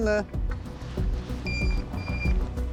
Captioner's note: pinpointer beeping